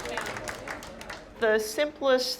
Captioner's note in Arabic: الناس يصفقون; يتحدث بصوت مكتوم